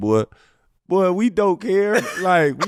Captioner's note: laughing